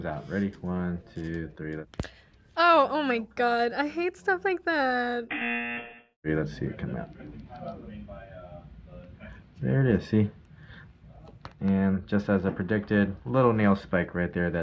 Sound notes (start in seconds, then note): 5.3 buzzer